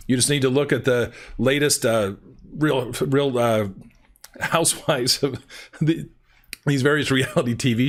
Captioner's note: chuckles